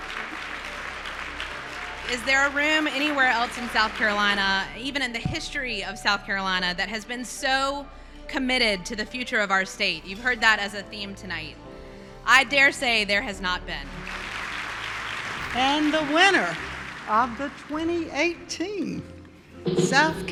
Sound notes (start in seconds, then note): 0.0 applause; 13.7 applause